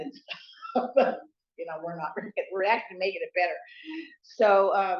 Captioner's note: laughs